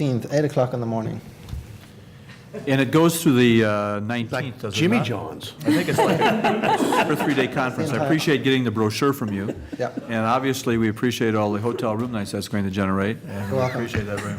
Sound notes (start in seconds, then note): 5.6 laughter; 13.3 laughter